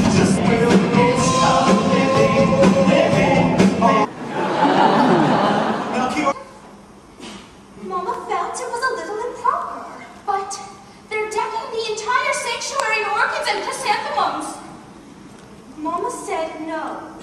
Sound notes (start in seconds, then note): 0.8 sung; 4.0 audience laughing